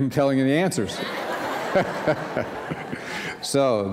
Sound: laughter

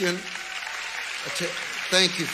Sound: congregation cheering

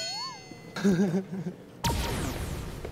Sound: kekekekeke

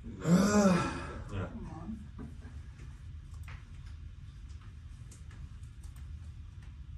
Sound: groaning

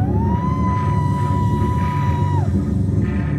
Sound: shouting

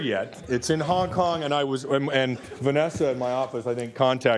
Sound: laughter

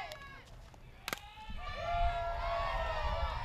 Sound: cheering; bat hits ball

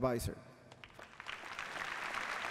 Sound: applause

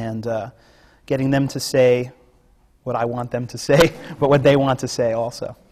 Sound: laughs

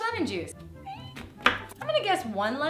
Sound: chopping sound

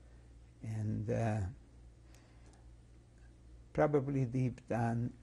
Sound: pauses for 3 seconds

